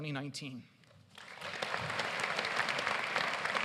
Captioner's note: applause